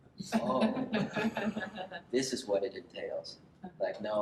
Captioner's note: laughter